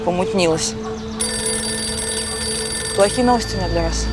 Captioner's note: phone ringtone